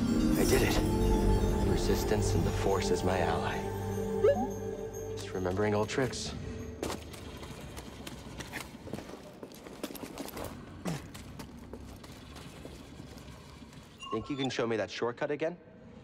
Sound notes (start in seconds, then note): 4.2 inquisitive beep